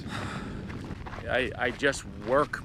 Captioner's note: Mike sighs